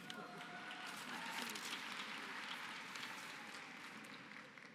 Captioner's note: applause